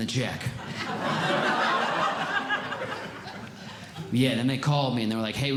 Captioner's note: audience Laughing